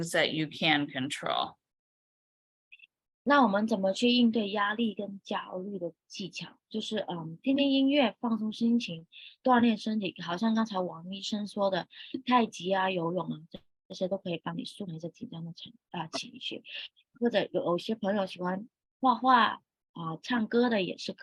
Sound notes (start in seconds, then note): 3.1 speaking chinese